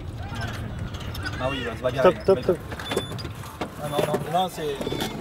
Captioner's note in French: audio parlé en français